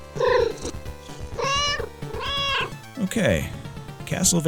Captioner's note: meow